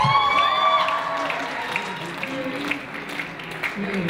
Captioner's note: audience cheers